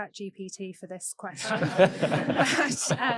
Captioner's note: audience laughing